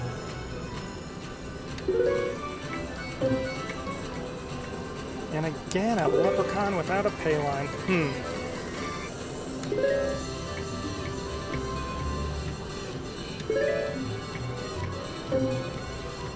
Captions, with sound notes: (machine beeps) And again a leprechaun without a payline. (machine beeps)